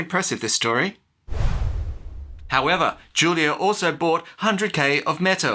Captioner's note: woosh